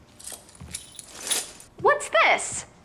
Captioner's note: keys jingling